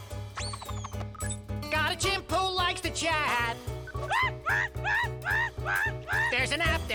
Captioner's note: chimp screaming noises